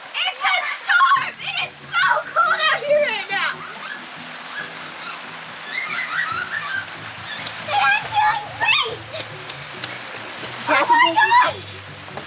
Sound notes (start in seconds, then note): 0.0 rain pouring loudly; 3.7 screeching